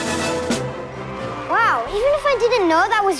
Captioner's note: dramatic music; drum roll; audience cheering